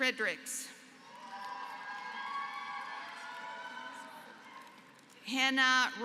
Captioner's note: applause